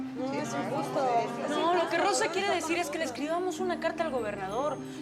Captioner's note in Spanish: Todas comentan al unísono